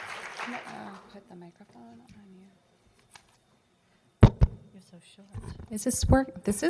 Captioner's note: applause